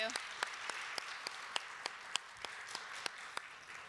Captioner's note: applause